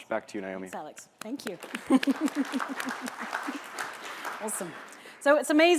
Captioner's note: applause